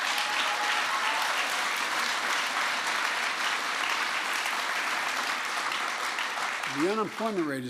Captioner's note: applause